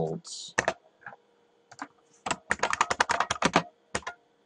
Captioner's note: typing